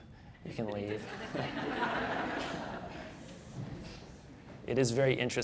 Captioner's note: audience laughing